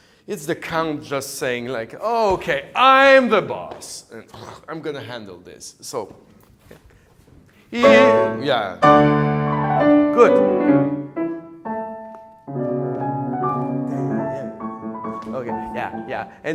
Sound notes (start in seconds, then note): 4.2 snorts; 5.8 sings with piano